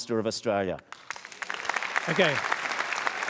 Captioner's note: applause